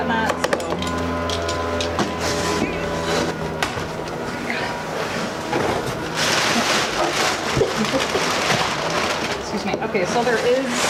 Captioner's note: rips paper